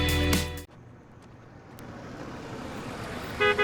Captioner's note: car pulls up and honks